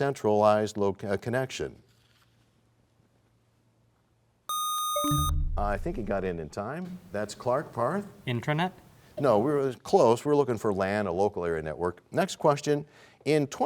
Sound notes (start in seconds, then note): 4.5 bell chimes; 4.5 buzzer sound